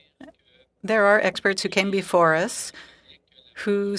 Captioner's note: speaking French